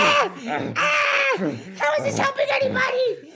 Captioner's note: chokes; grunting and choking sounds...and chaos...pure chaos